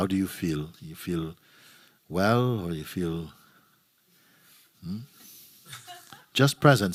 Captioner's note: laughter